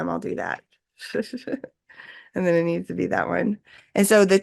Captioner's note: laughs